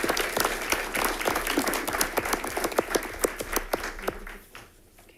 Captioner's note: audience applauding